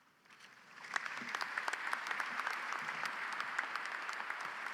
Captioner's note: audience applauds